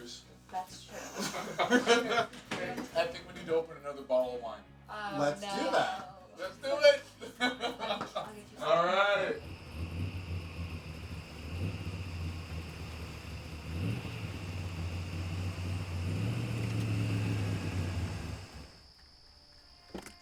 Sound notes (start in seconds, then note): 0.9 laughing; 7.0 laughing; 8.8 engine rumbling